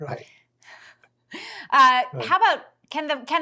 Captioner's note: chuckles